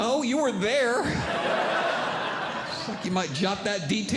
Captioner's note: audience Laughing